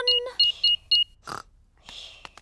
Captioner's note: beeping